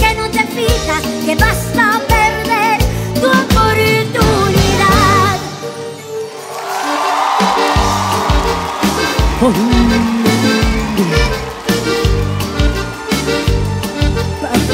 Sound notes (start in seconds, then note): 6.1 Aplausos, arpa, acordeón, batería